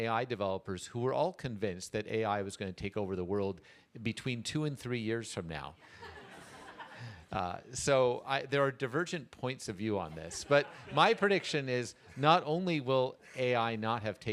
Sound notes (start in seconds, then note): 5.8 laughter